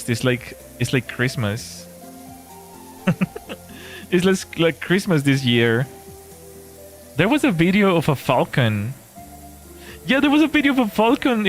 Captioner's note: laughter